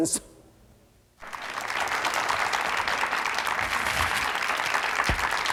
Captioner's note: audience claps